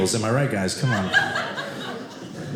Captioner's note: audience laughing